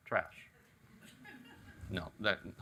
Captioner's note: audience chuckles